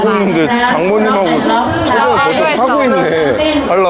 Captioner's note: laughing